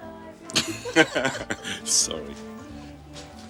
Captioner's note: both laughing